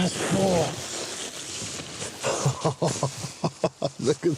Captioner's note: laugh